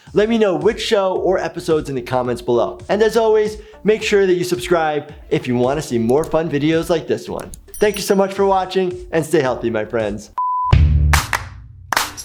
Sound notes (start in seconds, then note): 10.4 beep; 11.2 upbeat music